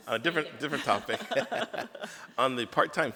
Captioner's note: laughs